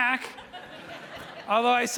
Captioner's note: audience laughing